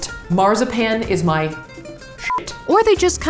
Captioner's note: beep